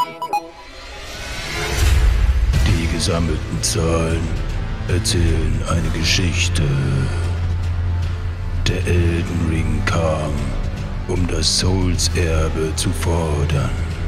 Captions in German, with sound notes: (Düstere Stimme:) Die gesammelten Zahlen ... erzählen eine Geschichte. Der Elden Ring kam, um das Souls-Erbe zu fordern.